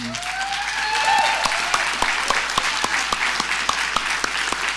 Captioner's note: audience applauding